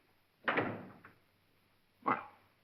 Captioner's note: door closes